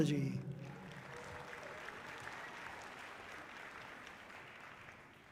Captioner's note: audience clapping loudly